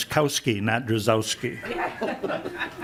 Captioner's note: laughing